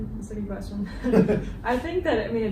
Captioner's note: chuckling